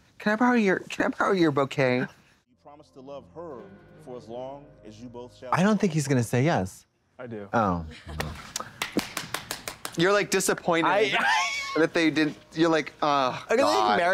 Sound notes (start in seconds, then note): 8.6 Trixie applauds